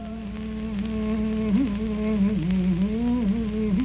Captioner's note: man humming